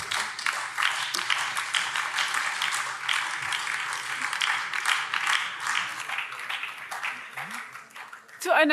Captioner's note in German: Beifall BÜNDNIS 90/DIE GRÜNEN, Freie Demokraten und vereinzelt SPD